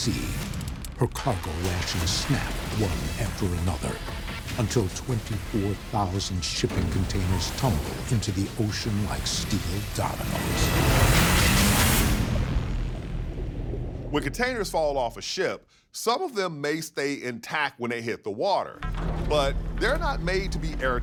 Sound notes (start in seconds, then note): 10.6 intense music; 11.6 water burbling